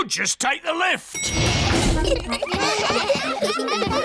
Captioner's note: elevator bell dings; all giggling